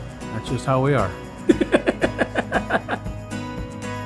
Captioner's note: laughs